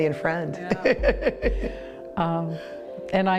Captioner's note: both laugh